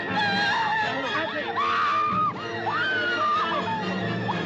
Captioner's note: Grito; Grito continua